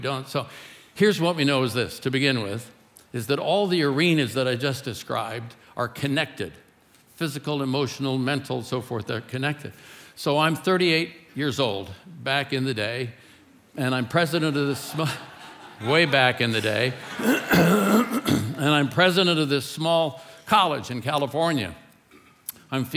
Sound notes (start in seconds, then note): 14.4 congregation laughing